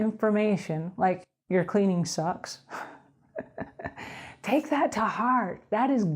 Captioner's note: laughing